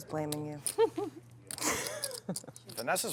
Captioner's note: laughs